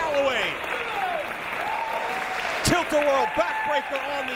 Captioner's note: applause